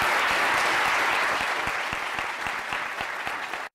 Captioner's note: applause